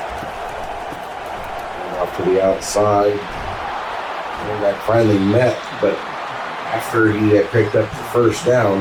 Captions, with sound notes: Up to the outside. [Crowd Noises] That finally met but after he had picked up the first down,